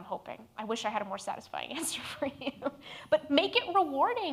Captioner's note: laughs